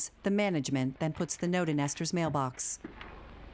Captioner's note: paper rustling